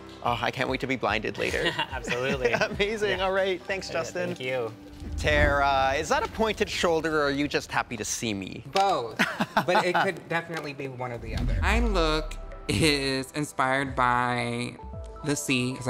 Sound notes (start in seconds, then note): 1.4 chuckles; 9.2 chuckles